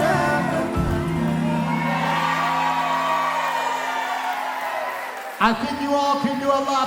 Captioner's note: gentle music; cheering; applause